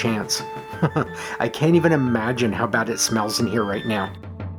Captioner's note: chuckles